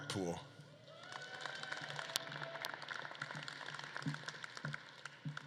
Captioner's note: audience claps and cheers